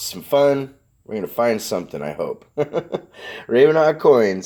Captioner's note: chuckles